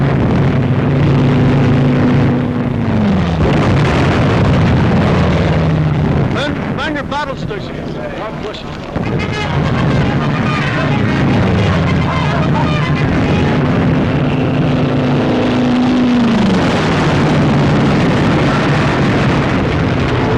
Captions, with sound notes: - Men, man your battle stations. God bless you! (bugle playing) (plane flying overhead) (exploding)